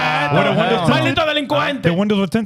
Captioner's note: speaking In Foreign Language